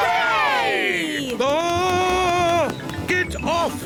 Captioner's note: screams